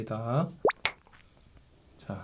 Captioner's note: snap!